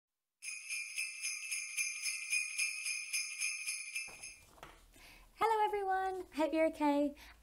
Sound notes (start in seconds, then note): 0.4 sleigh bells sound